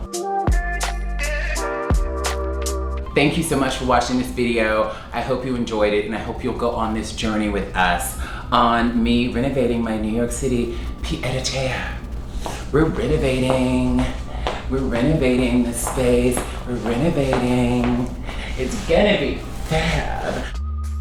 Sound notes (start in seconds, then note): 0.0 easygoing hip-hop music; 10.5 speaks in foreign language